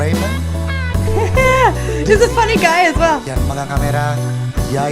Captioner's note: laughs